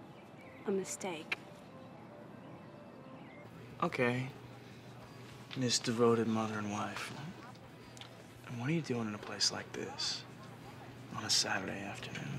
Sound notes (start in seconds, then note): none